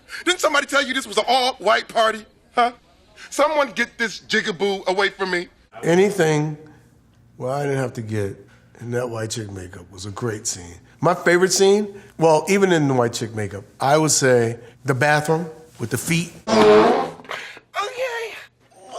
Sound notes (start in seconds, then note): 16.4 passing gas loudly